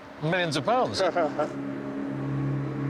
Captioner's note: laughing